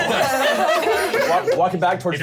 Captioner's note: laughter